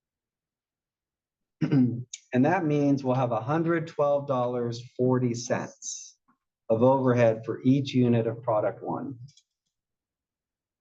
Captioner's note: cough